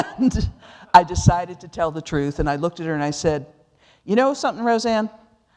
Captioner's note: laughing